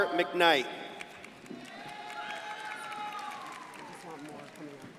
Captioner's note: crowd applauding